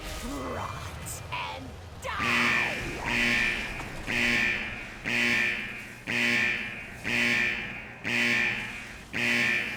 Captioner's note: buzzing